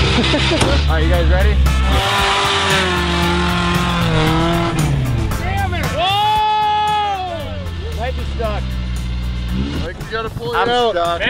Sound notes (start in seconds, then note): 0.1 engine revving; 2.6 engine revving; 6.4 yelling